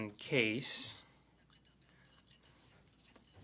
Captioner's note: speaking French